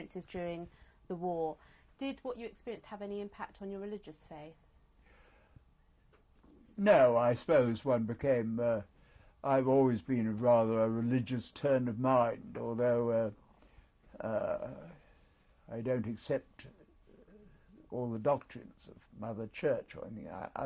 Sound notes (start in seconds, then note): 13.5 pauses for 3 seconds